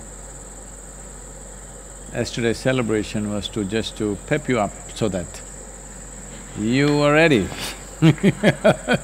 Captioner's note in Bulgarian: смее се